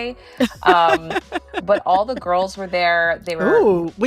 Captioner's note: laughter